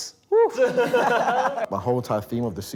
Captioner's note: group laughs